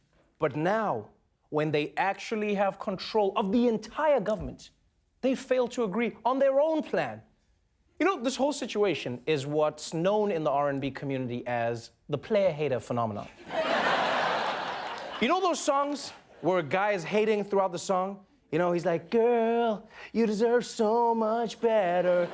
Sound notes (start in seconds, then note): 13.3 laughter